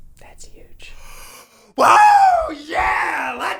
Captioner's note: screaming